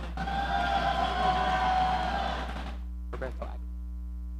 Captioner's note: audience cheering